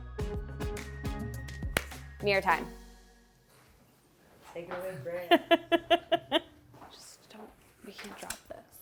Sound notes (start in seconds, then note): 0.0 ambient music; 5.0 laughs